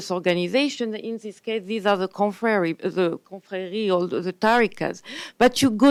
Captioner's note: speaks foreign language